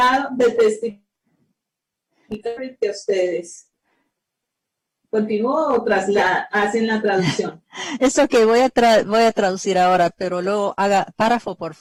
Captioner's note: speaking spanish